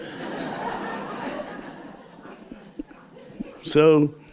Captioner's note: laughter